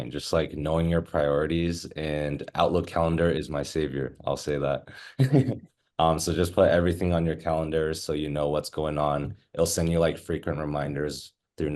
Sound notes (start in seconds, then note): 5.1 laughing